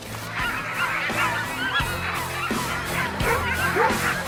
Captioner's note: dogs barking